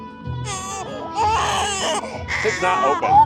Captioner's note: baby crying